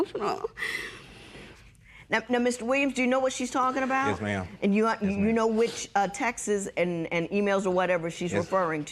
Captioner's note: voice breaking